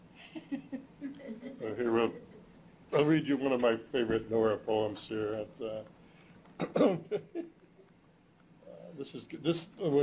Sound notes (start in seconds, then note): 7.0 chuckles